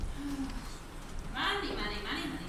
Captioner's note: Dolly sighs